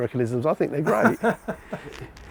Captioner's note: laughing